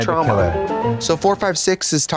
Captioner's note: bright chime